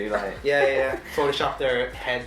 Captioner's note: laughing